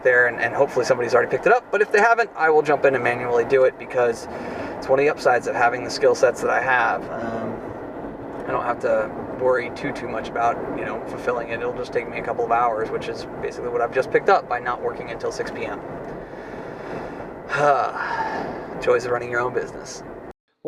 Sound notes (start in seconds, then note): 17.5 sighs